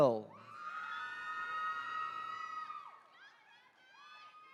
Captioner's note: attendees cheering